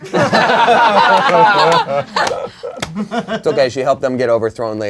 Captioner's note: crowd laughing